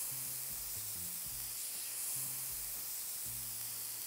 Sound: steak sizzles

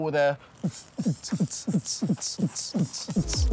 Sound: humming

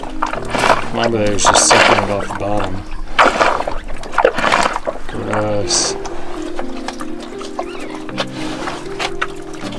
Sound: big slurping noises

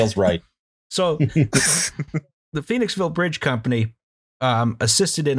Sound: laughter

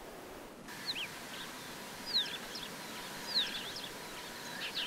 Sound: sound of breeze in grass and birds

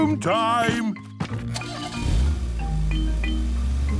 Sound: engine starting

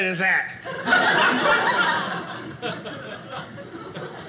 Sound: audience laughing

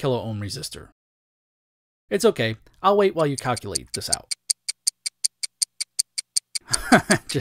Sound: clock Ticking; laughs

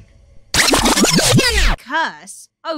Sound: rewind sound

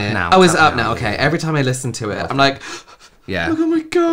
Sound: sniffles

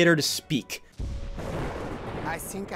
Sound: lightning

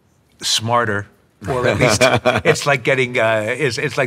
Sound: laughing

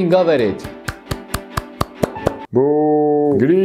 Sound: clapping

